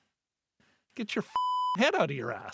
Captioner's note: beep